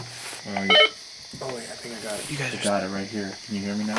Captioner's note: walkie beeps